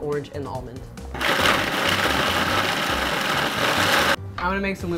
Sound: blender whirring

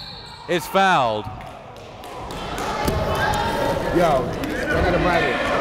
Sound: whistle blows; players bustling loudly

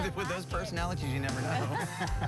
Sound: laughs

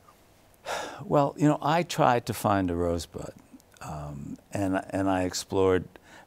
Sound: sighs

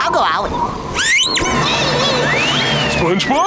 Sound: screaming

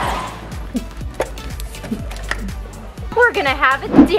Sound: pop

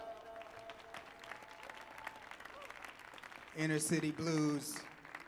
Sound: audience clapping and cheering

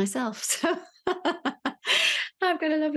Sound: laughs

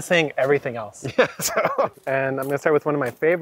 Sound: laughs

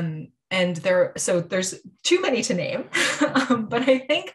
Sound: chuckling

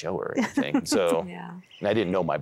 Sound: giggling

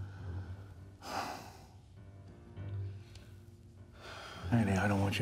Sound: sighs

